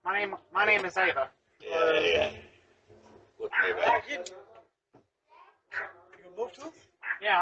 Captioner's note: Ella continues barking